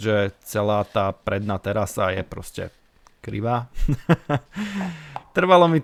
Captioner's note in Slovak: smiech